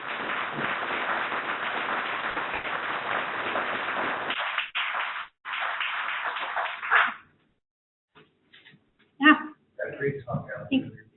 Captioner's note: clapping